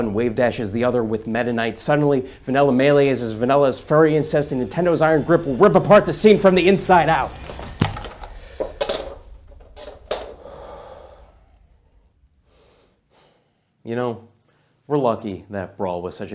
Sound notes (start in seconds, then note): 10.3 deep breath